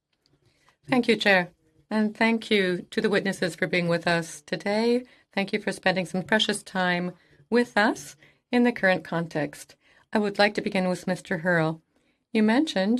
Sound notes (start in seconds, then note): 2.7 speaking French